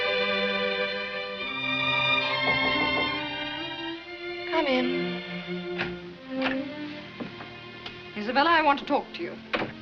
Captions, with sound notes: [knocks on door] Come in. Isabella, I want to talk to you.